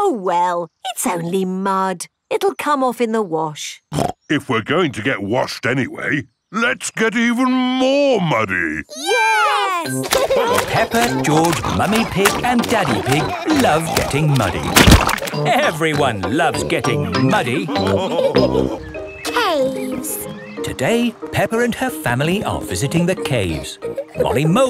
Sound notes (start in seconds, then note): 10.3 laughing